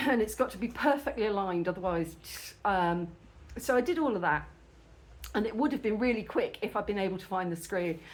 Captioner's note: tsk